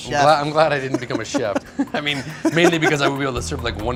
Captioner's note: laughing